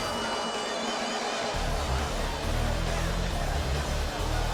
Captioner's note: crowd cheering; crowd chatter